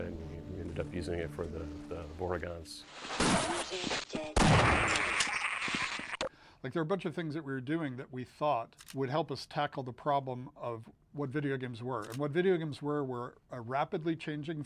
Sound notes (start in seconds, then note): 2.8 gunshots; 4.8 vortigaunt yelling